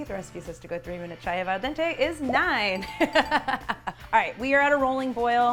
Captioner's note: laughs